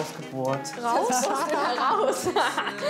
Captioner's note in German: lacht